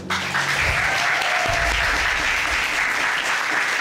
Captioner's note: audience cheers